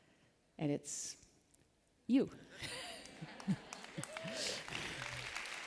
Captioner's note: applause